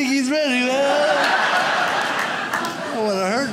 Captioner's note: audience laughs